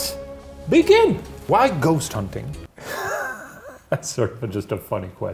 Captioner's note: chuckles